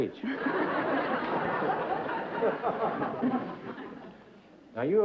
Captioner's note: laughter